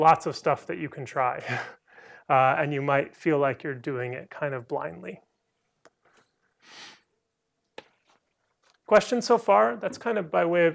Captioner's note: laughter